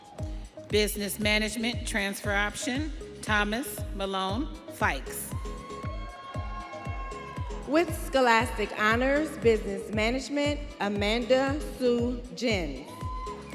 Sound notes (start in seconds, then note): 5.3 students cheering